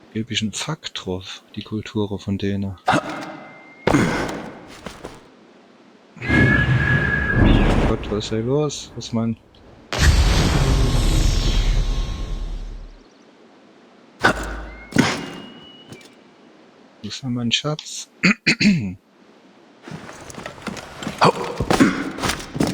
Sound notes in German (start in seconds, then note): 14.2 räuspern; 14.2 husten